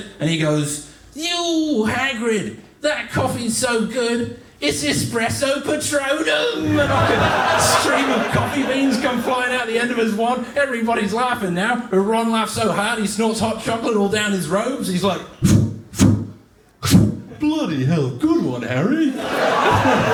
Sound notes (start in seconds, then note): 16.8 sneezing sounds